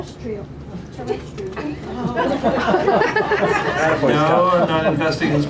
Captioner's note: laughter